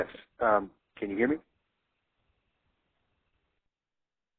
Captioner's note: voiceover